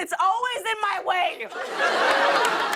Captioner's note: laughter